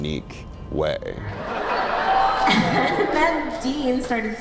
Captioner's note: laughter